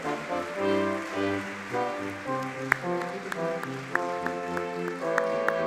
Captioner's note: audience clapping